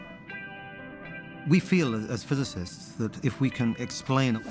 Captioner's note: none